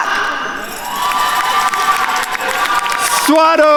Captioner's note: attendees cheering and applauding